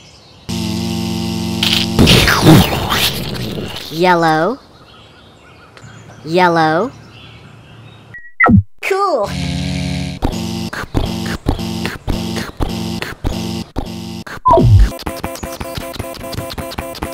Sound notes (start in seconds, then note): 0.5 buzz; 1.6 crunch; 2.0 explosion; 8.2 beep; 9.6 buzz; 10.7 pounding footsteps; 15.2 fast pounding footsteps